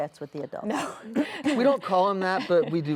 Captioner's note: chuckles